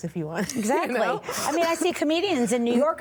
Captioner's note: laughs